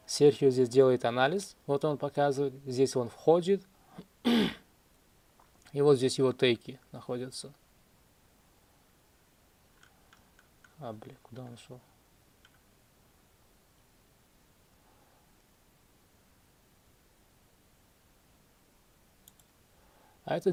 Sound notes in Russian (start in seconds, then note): 4.2 откашливается